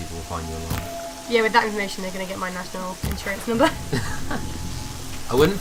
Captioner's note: laughter